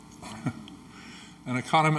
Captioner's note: Angus chuckles